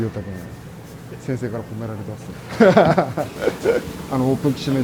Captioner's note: laugh